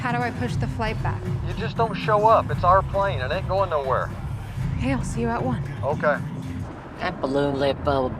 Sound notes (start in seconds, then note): 1.6 on phone